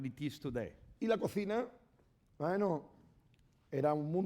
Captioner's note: speaking spanish